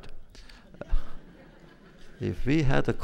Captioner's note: laughter